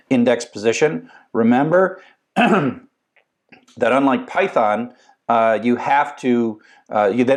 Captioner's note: cough